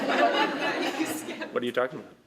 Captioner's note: laughter